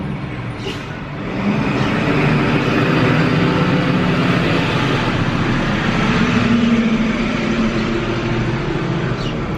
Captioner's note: loud truck driving past